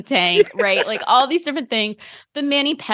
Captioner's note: laughter